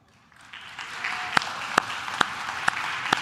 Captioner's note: claps